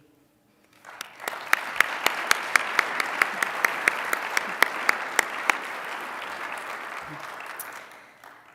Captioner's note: applause